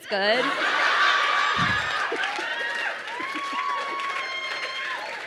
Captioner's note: crowd laughing and cheering